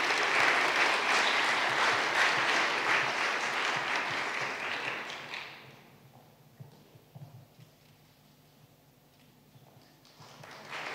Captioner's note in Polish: oklaski